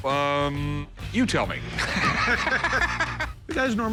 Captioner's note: laughter